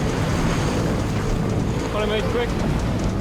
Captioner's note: waves rustling